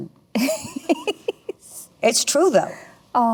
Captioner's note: Melanie laughs